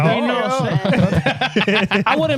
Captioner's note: laughing